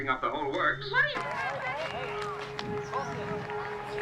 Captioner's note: chattering